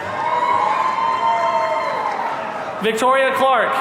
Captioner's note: audience cheering